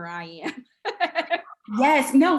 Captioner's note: laughing